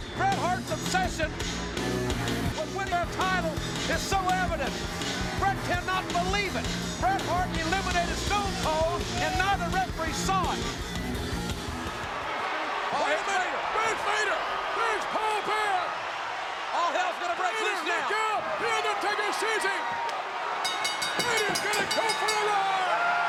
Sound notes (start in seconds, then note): 11.3 applause; 20.7 applause